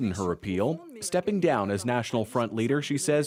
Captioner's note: speaking French